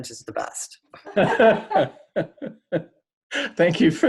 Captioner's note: laughter